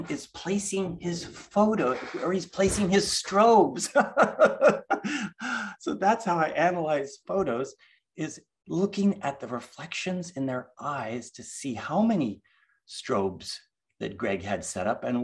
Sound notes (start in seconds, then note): 3.8 laughs